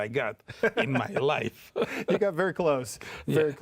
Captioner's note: chuckles